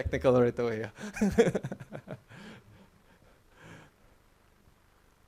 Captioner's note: laughing